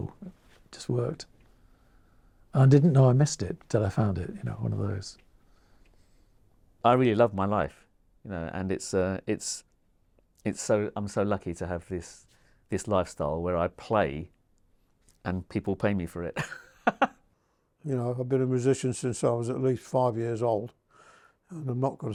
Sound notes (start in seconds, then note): 16.4 laughs